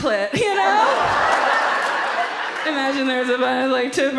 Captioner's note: audience laughs